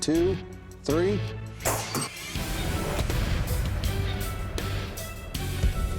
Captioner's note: whoosh, clang